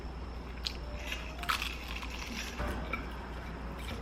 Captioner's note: crunchy sound